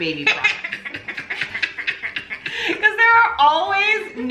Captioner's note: laughs